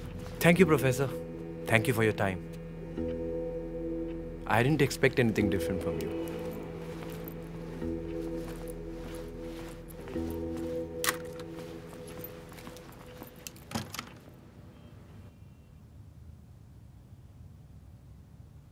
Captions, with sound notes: Thank you, professor. Thank you for your time. I didn't expect anything different from you. (Door shuts) (Sound of traffic)